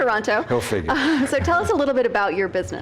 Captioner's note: laughs